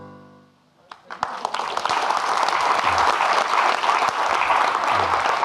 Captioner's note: audience clapping